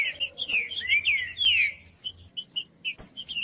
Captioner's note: trinca ferro cantando